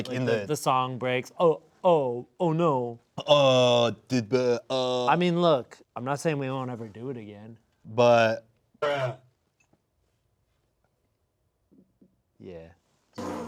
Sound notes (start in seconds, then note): 3.4 stammering; 9.1 distorted Voice